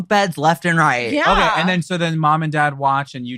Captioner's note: all laughing